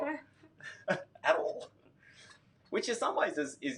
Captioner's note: laughs